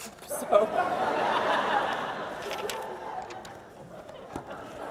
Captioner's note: audience laughs louder